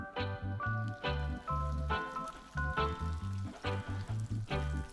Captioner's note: water trickling